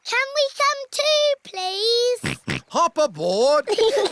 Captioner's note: snorts